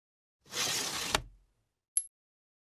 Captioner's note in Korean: 동전 줍는 소리